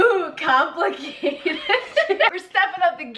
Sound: laughing

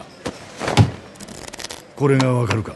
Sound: Jack hits table; Jack hits cards against table

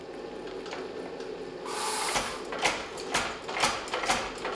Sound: hammering

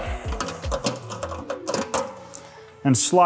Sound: metal clanking

